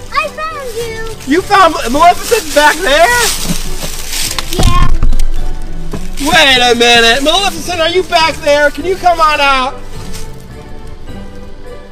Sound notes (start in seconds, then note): 3.7 crunching